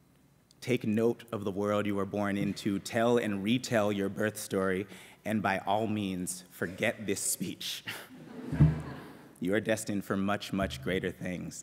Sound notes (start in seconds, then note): 7.9 laughter